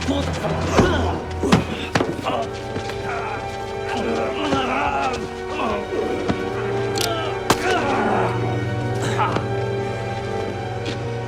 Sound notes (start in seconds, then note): 0.0 grunting; 7.5 groaning